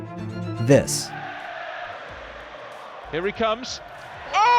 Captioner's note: crowd cheering